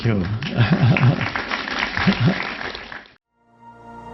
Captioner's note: applause